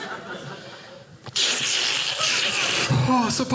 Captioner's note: ripping mask